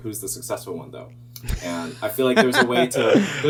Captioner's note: laughing